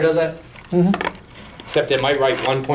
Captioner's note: voiceover